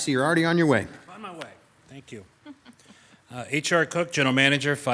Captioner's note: woman laughing